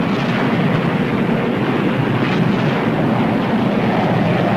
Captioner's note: explosion booms; water splashes; weapons firing